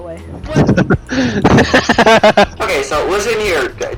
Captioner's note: giggling like a fucking maniac